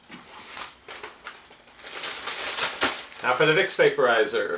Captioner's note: plastic bag noise